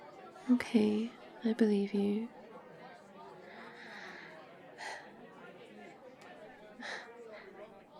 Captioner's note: sighs